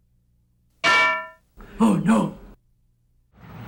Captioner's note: loud clang; voiceover